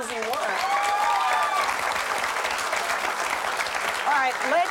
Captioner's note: cheering